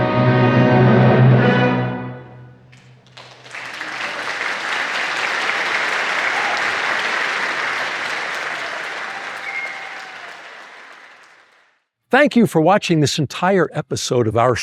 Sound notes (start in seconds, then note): 2.7 applause